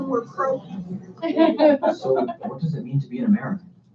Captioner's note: laughter